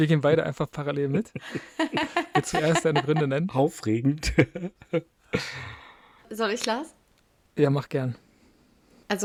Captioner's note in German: gelächter